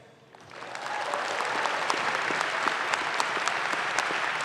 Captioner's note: audience claps